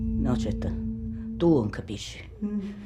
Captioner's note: in Italian